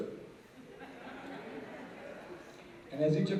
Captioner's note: laughter